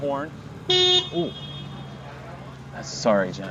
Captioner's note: horn beeps